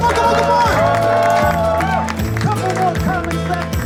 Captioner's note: audience cheers; audience applauds